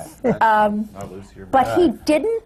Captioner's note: laughs